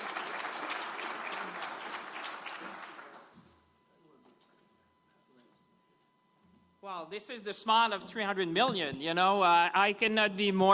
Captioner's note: applause